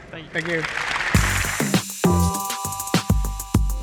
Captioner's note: applause